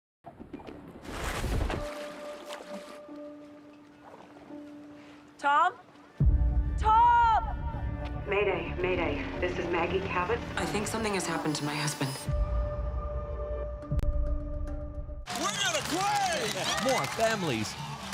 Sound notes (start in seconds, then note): 0.9 suspenseful; 4.5 water splashing